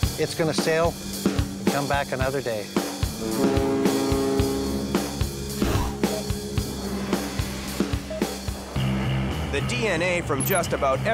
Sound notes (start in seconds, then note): 3.1 ship horn blares; 6.1 machine beeping